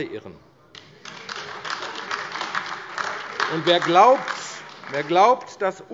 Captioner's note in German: Beifall AfD - Zurufe BÜNDNIS 90/DIE GRÜNEN